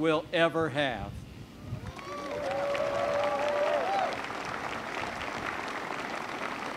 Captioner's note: applause